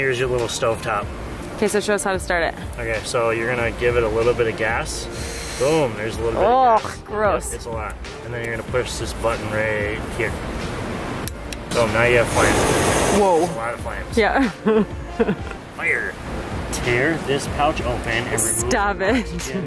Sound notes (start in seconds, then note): 5.0 gas hisses; 11.5 button clicking; 11.6 gas torch igniting; 14.3 chuckles